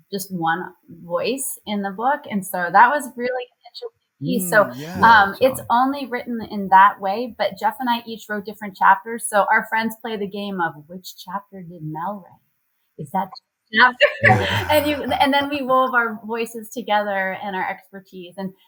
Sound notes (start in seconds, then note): 13.9 laughs